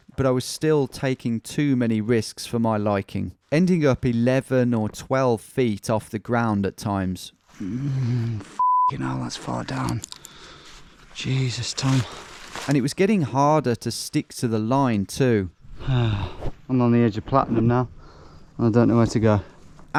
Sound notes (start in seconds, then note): 8.6 beep